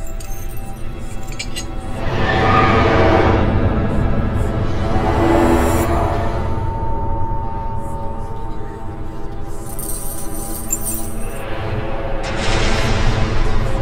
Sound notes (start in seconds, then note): 0.1 dramatic music; 0.3 eerie whispering; 9.5 chains rattling